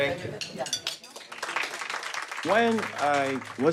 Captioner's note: applauding